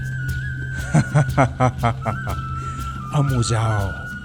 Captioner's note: laughing